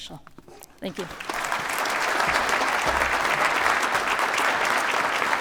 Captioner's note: applause